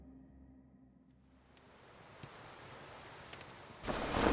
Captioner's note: door sliding